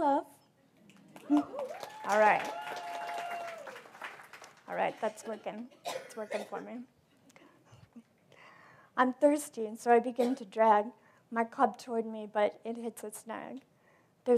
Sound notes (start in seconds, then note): 0.9 applause; 7.6 laugh